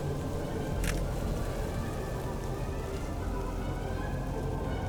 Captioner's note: phone camera clicks